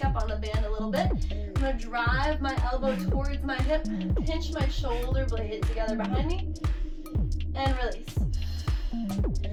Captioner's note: exhales